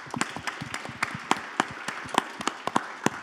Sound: applause

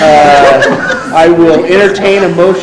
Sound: laughing

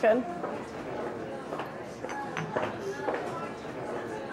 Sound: people chattering

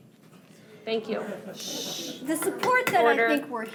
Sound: shushing

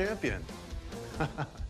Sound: laughs

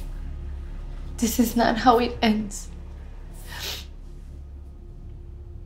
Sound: sniffs

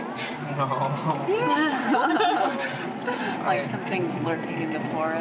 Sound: laughs

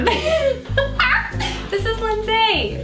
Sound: laughs

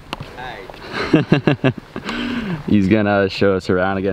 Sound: laughing

